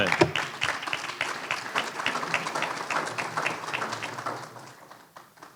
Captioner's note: applause